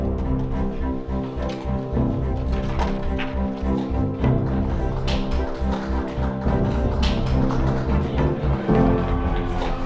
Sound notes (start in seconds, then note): 0.0 rousing music playing; 4.9 applause